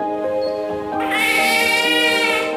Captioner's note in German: Babyschreie